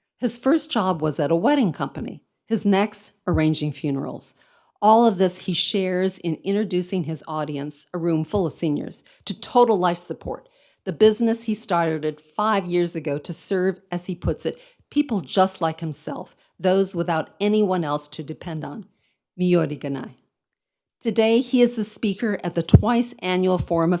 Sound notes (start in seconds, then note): 19.3 speaks in foreign language